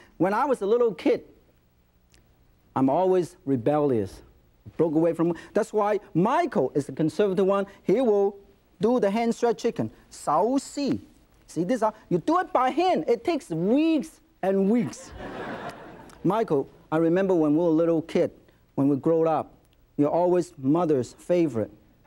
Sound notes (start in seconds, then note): 10.3 speaking foreign language; 14.9 audience laughing